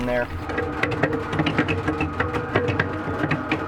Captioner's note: washer tumbling